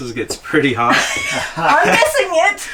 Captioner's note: laughing